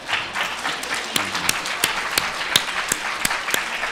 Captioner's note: audience clapping